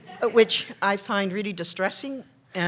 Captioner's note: laughter